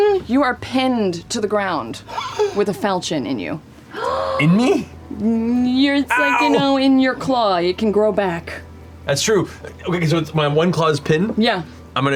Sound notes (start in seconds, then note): 3.9 gasps